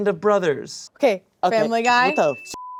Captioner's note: beep